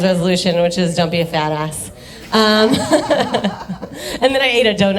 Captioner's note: laughs